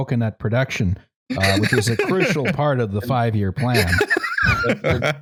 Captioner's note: laughs